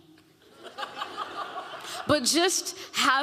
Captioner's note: audience laughing